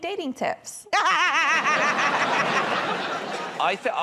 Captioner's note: laughter